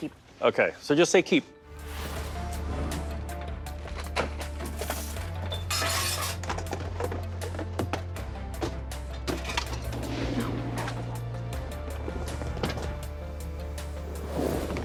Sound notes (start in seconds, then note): 1.5 tense music; 3.8 objects clattering; 11.7 tense music; 12.2 objects clattering